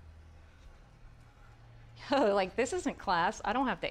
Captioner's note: chuckling